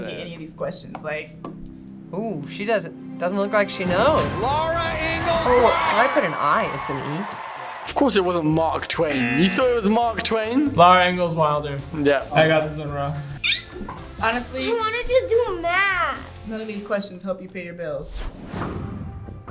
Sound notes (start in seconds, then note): 9.3 buzzer rings; 13.4 squeaks